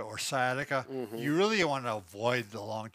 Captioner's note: hums agreeably